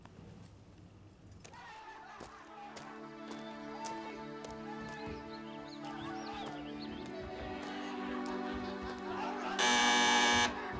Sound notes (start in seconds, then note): 1.6 distant partying sound; 9.6 door bell